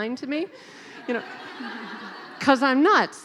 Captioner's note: laughing